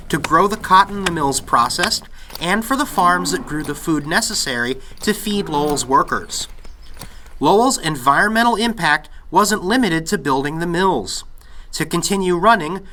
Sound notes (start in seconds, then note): 0.0 axe chopping and crackling of fire; 2.5 bulls mooing and creak of plows